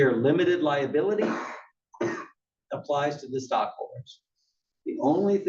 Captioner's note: cough